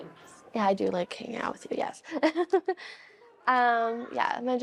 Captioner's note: laughs